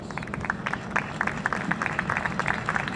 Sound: applause

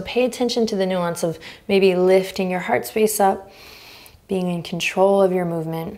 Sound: inhaling deeply

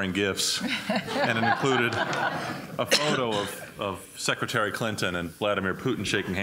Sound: laughter

